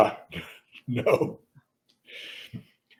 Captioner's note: laughs